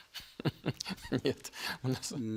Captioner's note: laughter